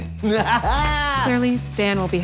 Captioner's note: laughter